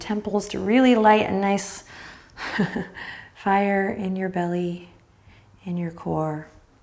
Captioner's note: chuckles